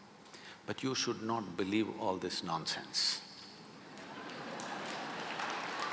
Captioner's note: laughter/Applause